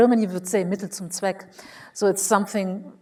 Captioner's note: speaks foreign language